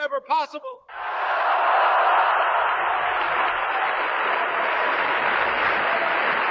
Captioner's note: applause